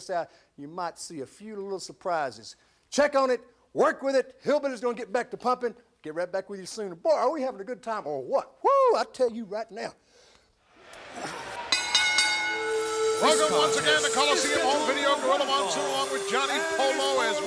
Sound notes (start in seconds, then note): 10.8 brooding music; 10.9 audience chattering; 10.9 bell ringing